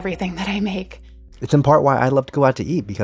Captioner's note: soundbite of archived recording